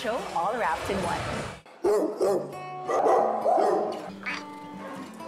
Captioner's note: dogs barking; cat meows